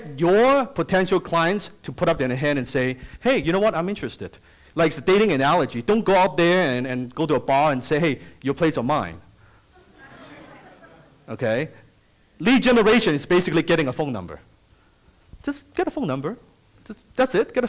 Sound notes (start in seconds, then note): 9.7 audience laughs